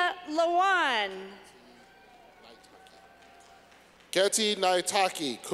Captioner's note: clapping